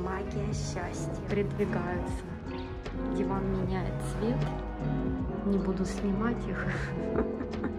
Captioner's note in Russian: хихиканье